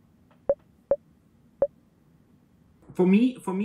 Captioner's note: computer beeps